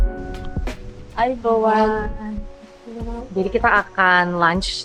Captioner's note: in sihanlese